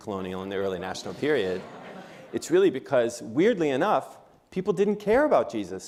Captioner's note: laughter